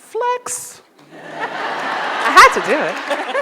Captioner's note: audience laughs